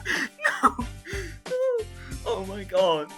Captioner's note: inhale